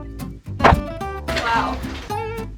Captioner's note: smack